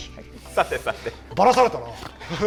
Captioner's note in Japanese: 笑い; 鼻息